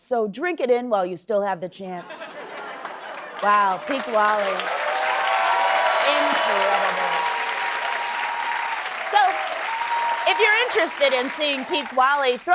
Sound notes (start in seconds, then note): 5.0 cheering and applause